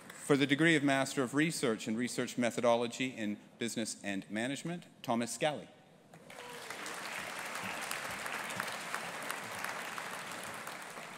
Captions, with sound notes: For the degree of Master of Research and Research Methodology in Business and Management, Thomas Scally. (AUDIENCE APPLAUDING)